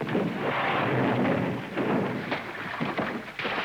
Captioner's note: splash